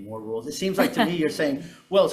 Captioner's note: chuckling